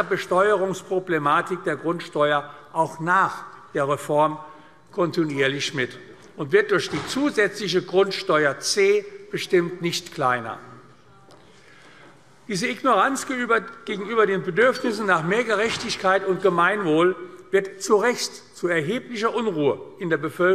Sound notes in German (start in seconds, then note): none